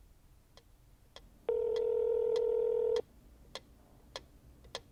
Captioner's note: phone ringing